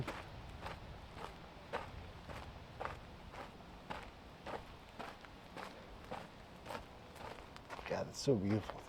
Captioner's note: wind